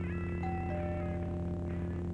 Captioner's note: doorbell rings